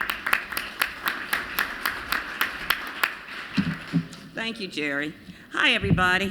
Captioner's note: applause